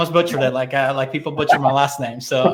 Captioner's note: laughing